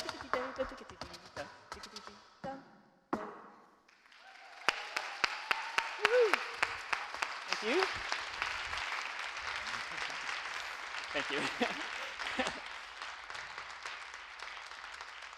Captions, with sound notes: (audience cheering) Thank you. Thank you. (chuckles)